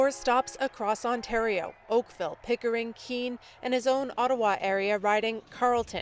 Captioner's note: cheers and Applause